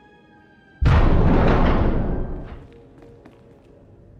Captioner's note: door closes